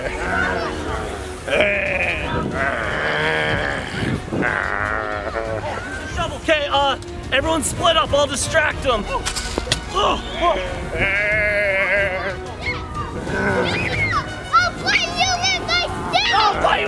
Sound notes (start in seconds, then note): 10.7 groans